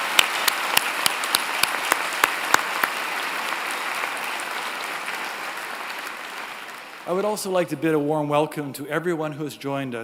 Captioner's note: applause